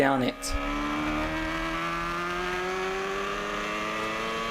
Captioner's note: motorbike roaring